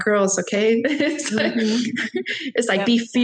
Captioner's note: laughing